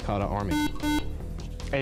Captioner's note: buzzer